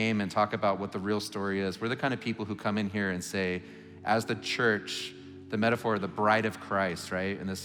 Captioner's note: none